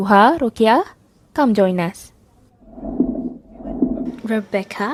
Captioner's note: pulling chairs, people chattering sounds